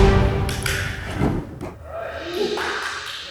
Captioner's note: tapping